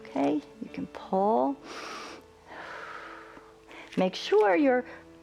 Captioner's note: inhales and exhales